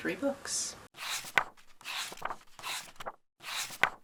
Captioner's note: pages turning